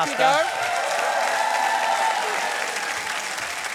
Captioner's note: cheering and applause